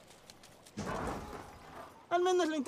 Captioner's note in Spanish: golpes